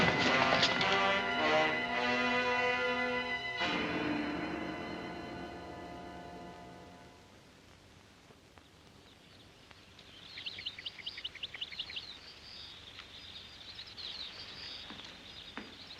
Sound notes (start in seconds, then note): 0.0 suspenseful music; 8.6 birds chirp